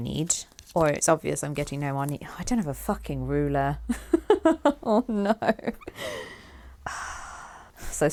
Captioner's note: sighs